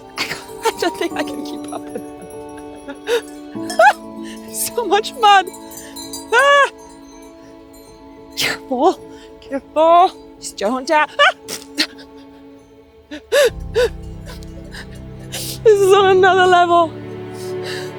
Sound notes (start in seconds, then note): 6.2 exclaims; 6.4 sheep bells clanging; 10.8 laughs; 11.5 yells